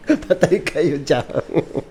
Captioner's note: gasps; laughing; sniggering